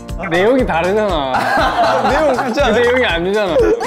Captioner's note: sob